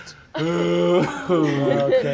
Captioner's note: groans